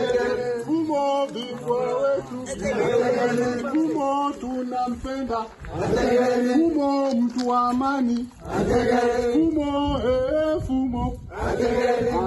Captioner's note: leads a call and response chant with people responding